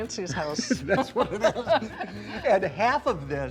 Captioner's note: laughs